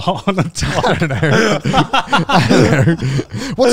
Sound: everyone laughs

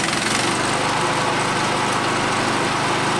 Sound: engine Reves Up

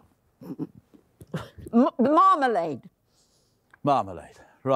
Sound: gargling

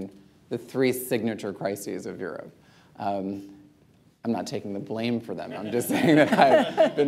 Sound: laughter

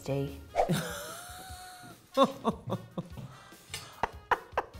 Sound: chuckling; laughing

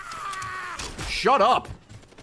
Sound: screaming; laughs

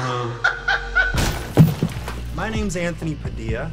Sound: laughs

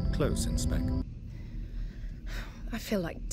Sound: nauseated sigh

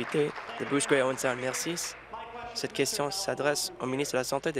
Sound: applause

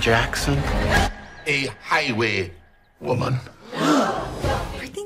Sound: gasp

